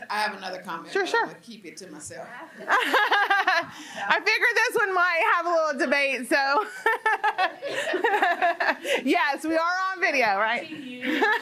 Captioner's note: laughter